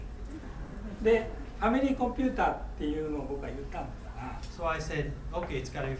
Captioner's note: speaking in foreign language